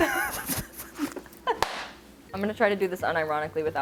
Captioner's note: laughing